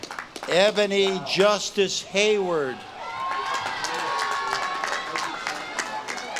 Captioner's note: audience claps and cheers